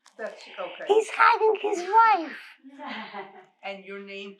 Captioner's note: laughing